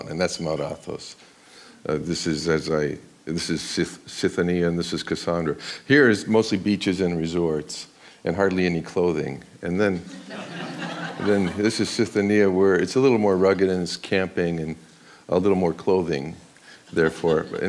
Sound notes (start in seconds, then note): 10.0 audience laughs